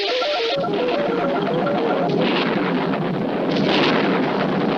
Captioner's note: thunder Strikes